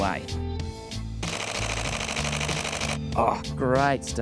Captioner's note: shutter clicking